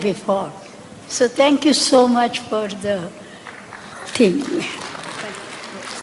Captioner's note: applause